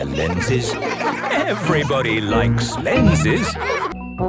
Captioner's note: laughter